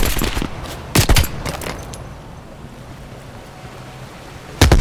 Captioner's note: gun fires